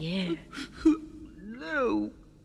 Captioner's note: sobbing continues